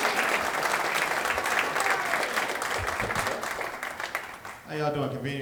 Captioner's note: clapping